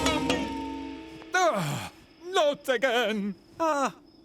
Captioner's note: sighs